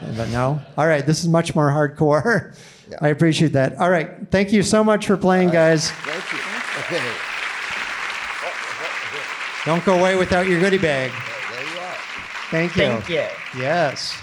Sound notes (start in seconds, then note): 5.4 audience applauding